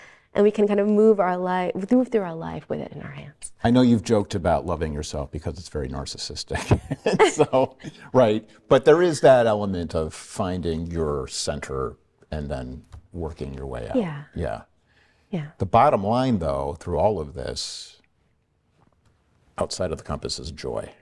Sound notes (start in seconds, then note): 6.5 they laughs